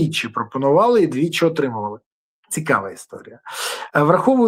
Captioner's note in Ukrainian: сопіння